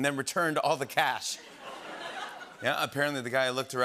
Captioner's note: laughter